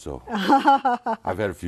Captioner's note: laughs